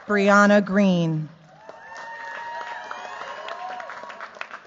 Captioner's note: cheers, applause